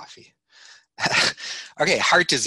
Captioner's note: chuckling